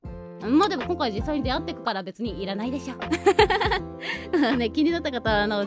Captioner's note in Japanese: 笑い